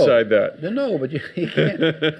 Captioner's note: audience laughs